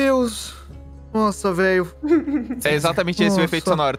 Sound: chuckles

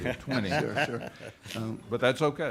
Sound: laughing

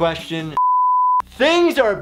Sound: holding pattern beeps

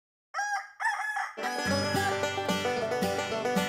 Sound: rooster crows; banjo plays

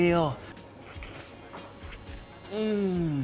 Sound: slurping

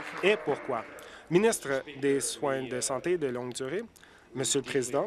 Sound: applause

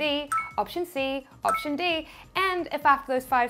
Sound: electronic beeping

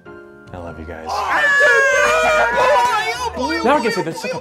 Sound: cheering

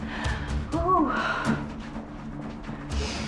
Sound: anxious music; Annie sighs; anxious music

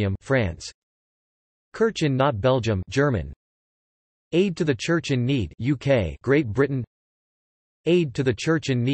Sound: German

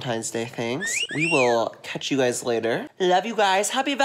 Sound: whistling noise

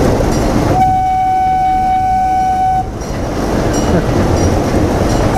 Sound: train horn toots

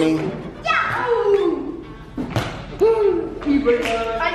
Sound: kids exclaiming

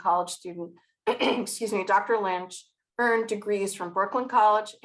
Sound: clears throat

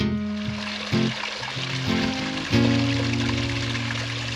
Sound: water flowing

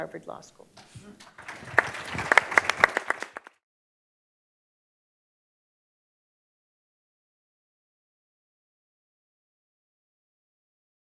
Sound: applause

